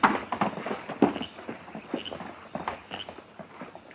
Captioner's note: horses galloping